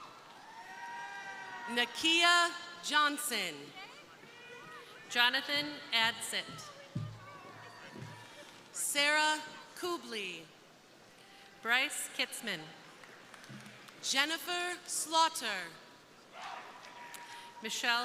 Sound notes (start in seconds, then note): 0.0 crowd cheering; 13.0 crowd applauding; 16.3 crowd cheering